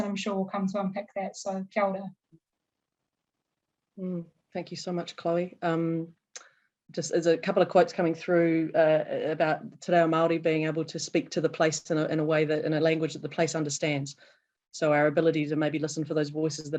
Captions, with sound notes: and I'm sure will come to unpack that, so kia ora. - Hmm, thank you so much Chloe. Just, there's a couple of quotes coming through about (speaking foreign language) being able to speak to the place in a way that, in a language that the place understands. So, our ability to maybe listen for those voices